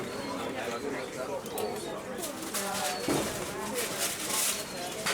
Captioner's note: more quiet market ambience